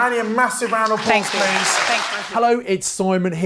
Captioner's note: audience clapping